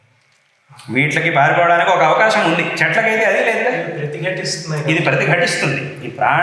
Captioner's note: animals